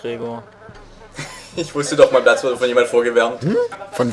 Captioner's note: laughs